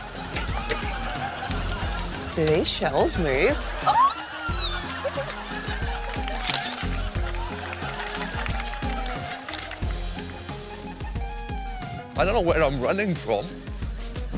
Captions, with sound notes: Do these shelves move? (SQUEALS) I don't know where I'm running from.